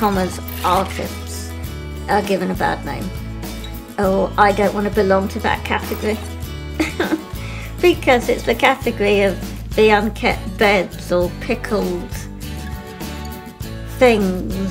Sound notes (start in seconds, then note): 6.8 laughs